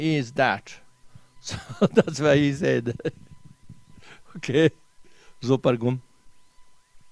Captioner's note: tibetan